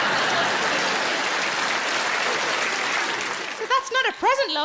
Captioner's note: audience laughing; audience applauding